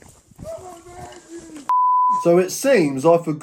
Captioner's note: beep